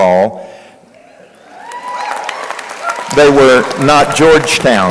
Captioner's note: crowd cheering